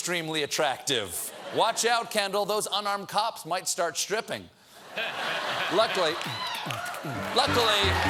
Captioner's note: cheers and applause; laughter